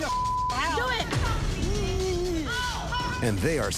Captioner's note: whines